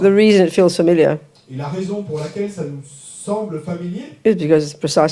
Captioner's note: French